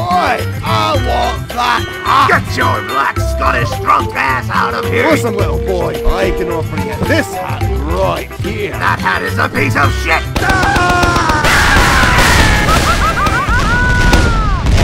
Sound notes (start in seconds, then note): 10.3 Demoman scream; 10.4 soldier scream